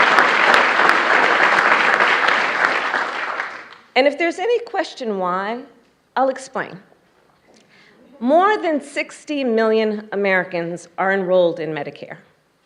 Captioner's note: applause